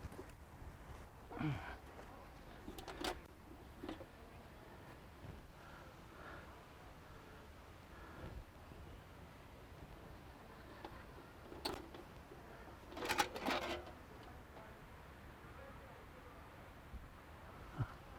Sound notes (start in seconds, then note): 1.3 Mercer grunts; 2.6 metal clattering